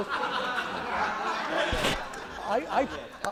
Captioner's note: laughter